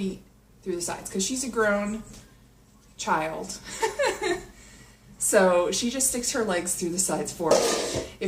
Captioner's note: laughs